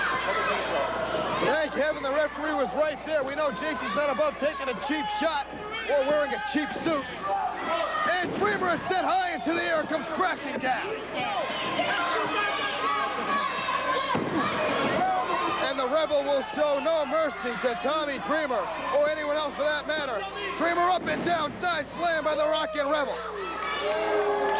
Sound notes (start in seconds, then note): 10.9 crowd cheering